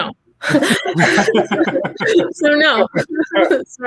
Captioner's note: laughing